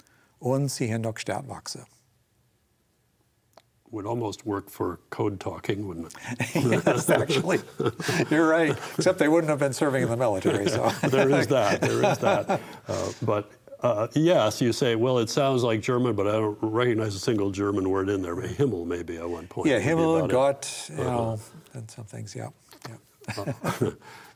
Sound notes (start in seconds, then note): 6.1 laughs